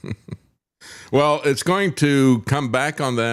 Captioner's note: laughing